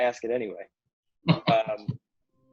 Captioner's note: chuckles